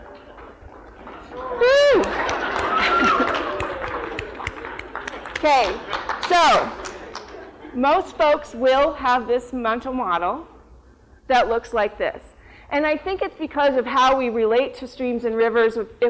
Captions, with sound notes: [APPLAUSE] So most folks will have this mental model that looks like this. And I think it's because of how we relate to streams and rivers